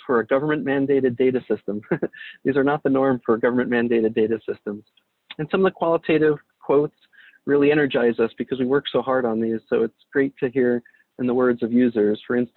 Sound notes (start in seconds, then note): 1.6 laughs